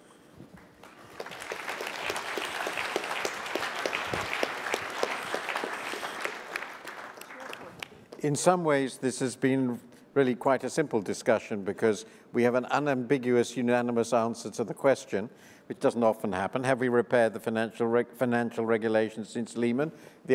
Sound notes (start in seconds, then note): 0.5 applause